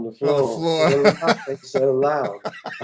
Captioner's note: laughter